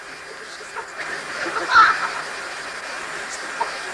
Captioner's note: laugh